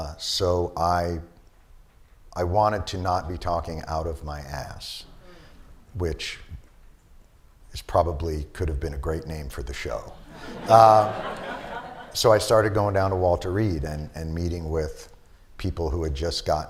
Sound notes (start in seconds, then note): 10.2 laughter